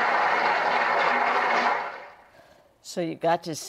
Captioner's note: applause